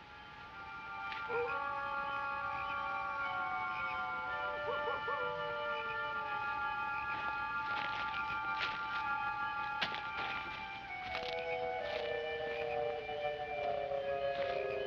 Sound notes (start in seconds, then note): 1.1 coyote howling; 1.9 frogs croaking